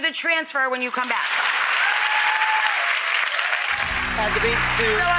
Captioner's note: applause